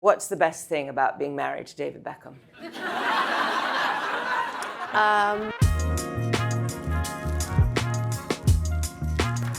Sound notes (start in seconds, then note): 2.6 audience laughs; 5.4 smooth uptempo music